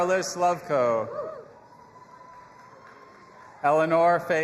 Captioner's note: audience applauding and cheering